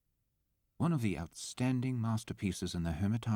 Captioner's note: voiceover